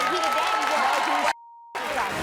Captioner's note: cheering